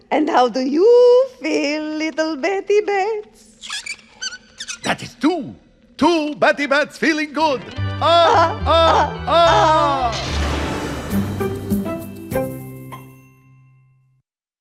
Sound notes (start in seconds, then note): 3.4 bats squeak; 10.1 lightning strikes